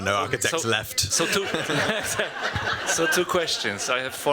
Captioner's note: laughter